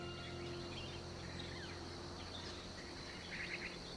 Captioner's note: birds chirping